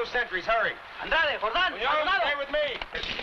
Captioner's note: men shouting in foreign language